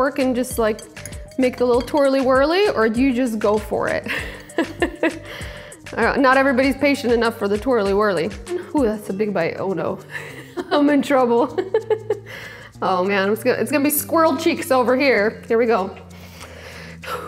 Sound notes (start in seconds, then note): 11.4 giggles